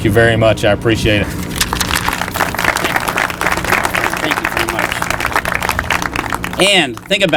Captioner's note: applause